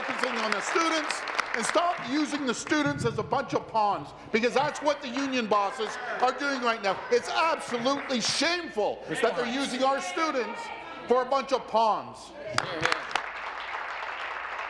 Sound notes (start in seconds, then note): 4.6 applause